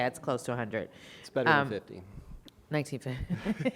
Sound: chuckles

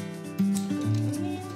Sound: click!

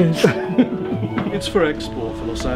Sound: laughs

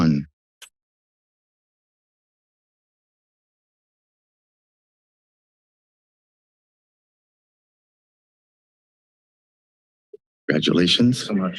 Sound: silence

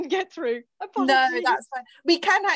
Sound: speaking faintly

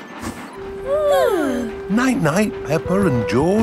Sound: both yawning

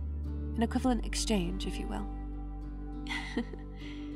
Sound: chuckle

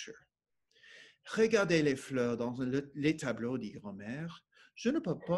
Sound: speaking French

